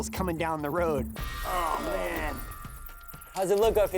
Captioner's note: squeaking